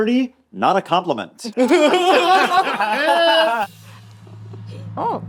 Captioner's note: all laughing